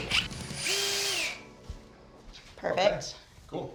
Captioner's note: drilling